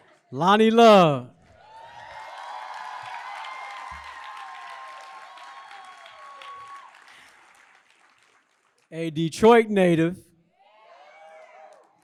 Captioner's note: applause